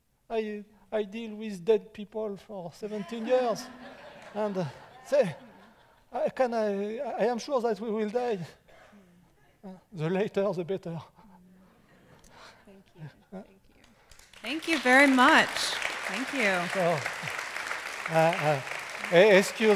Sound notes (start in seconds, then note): 16.9 applause